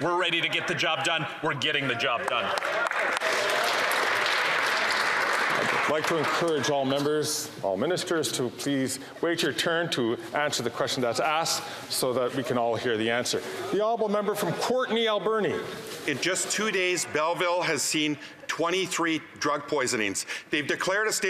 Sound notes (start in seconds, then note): 5.3 some Applause